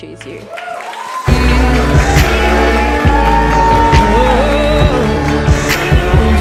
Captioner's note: people whooping and clapping